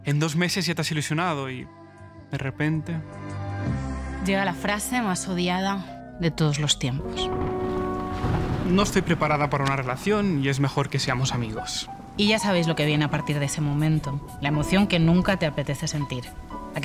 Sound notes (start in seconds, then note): 7.1 thunder